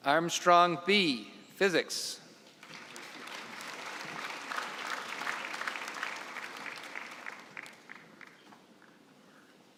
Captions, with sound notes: Armstrong Be, physics. (applause)